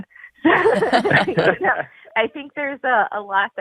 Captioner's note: all laughing